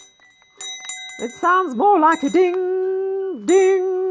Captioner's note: ding